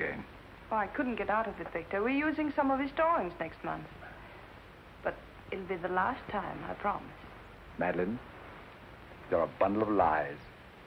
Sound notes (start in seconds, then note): none